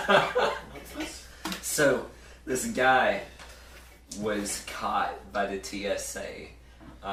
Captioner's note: laughter